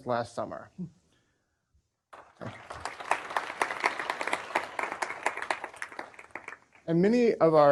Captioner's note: applause